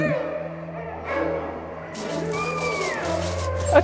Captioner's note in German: Bellen, Jaulen